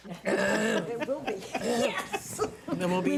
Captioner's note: board members laugh